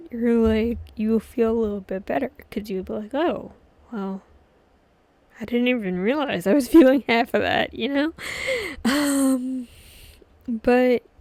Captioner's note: laughs